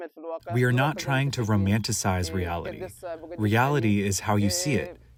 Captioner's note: through translator